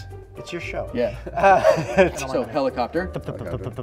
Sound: laughter

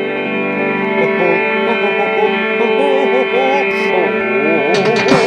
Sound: chuckling; drums beating

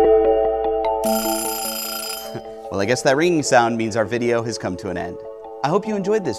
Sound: ring

